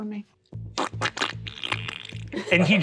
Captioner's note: squelches